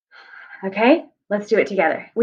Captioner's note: deep breath